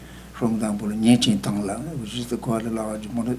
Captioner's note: speaking tibetan